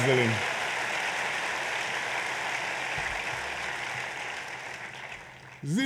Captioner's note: applause